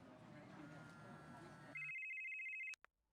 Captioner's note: phone rings